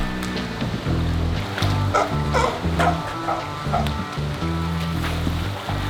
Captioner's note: sea lion barking